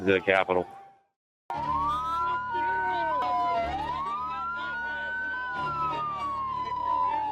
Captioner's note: sirens